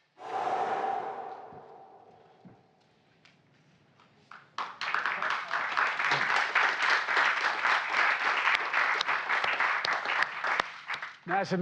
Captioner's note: applause